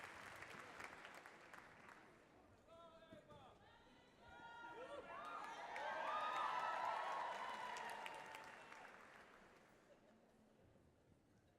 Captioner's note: unintelligible shout from audience, cheers, some applause